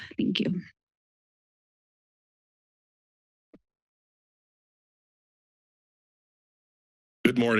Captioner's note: silence